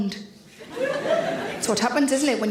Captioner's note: audience laughs